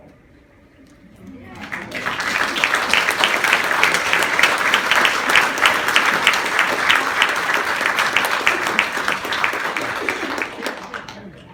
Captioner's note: applause